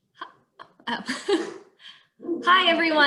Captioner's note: laughs